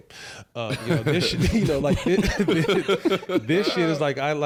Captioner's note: group laughing